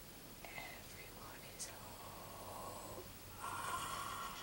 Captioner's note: whispers